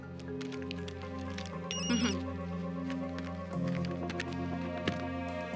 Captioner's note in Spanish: suena el celular